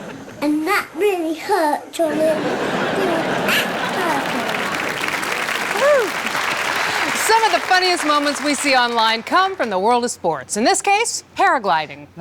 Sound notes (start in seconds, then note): 2.0 and the audience laugh again